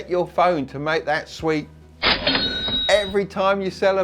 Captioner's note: cash register opening